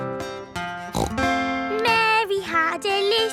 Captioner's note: playing guitar; snorts